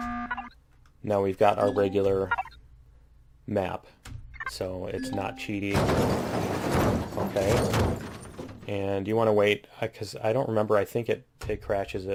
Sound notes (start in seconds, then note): 0.0 klaxon; 5.5 crashing